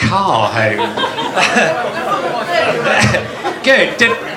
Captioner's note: audience laughter